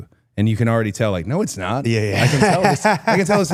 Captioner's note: laughs